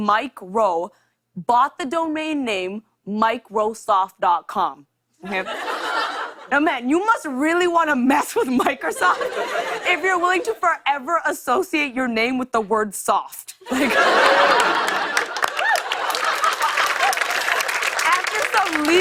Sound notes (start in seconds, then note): 5.2 laughter; 13.6 laughter and applause